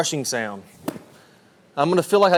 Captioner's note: club swooshes